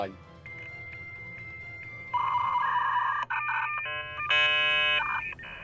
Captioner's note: beeping